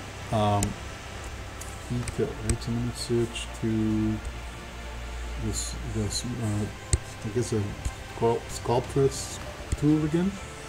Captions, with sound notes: I need to (speaking faintly) I guess, the Sculptures tool again.